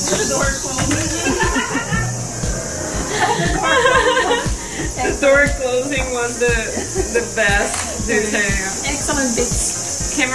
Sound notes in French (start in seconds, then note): 0.9 éclats de rire